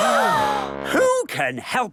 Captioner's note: all gasp